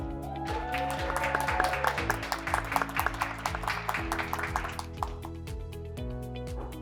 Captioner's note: graduates clapping; graduates cheering